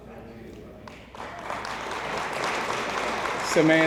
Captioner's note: audience applauds